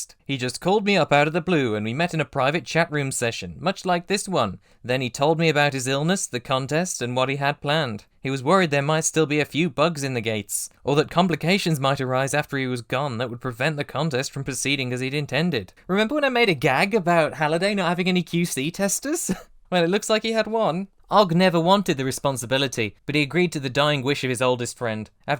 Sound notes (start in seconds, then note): 19.2 chuckles